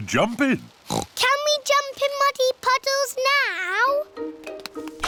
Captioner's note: oinks